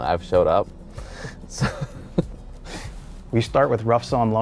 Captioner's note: chuckling